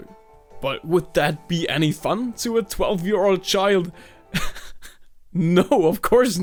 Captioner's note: chuckles